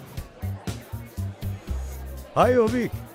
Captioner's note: crowd chatter; upbeat music